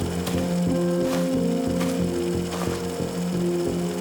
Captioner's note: film reeling